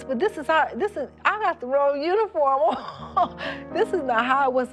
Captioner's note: laughs